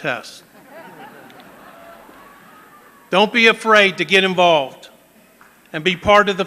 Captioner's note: laughter